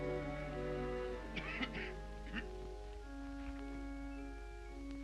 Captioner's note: Harry coughs lightly